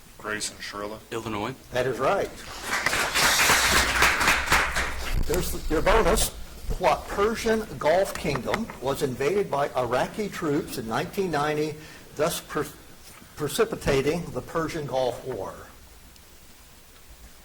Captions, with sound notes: - Grayson, Shiarella. - Illinois. - That is right. (audience applauds) Here's your bonus. What Persian Gulf Kingdom was invaded by Iraqi troops in 1990, thus precipitating the Persian Gulf War?